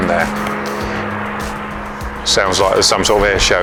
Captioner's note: airplane engine